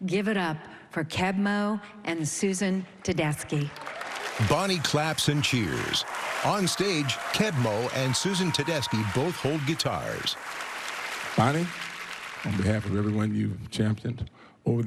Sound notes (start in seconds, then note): 3.8 cheering and applause